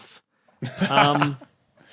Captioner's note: laughs